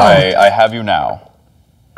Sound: imitating darth vader

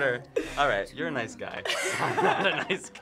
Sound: everyone laughs

